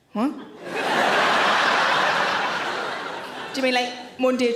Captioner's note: audience laughs